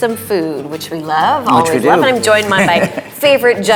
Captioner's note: laughing